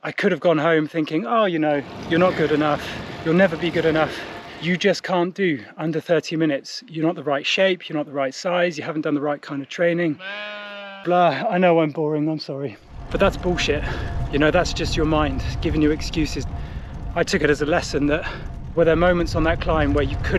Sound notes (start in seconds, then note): 10.1 sheep bleats